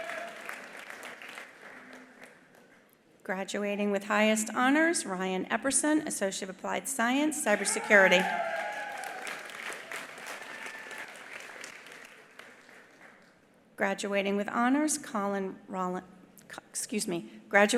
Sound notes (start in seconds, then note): 0.0 attendees applauding; 7.4 attendees cheering; 7.5 attendees applauding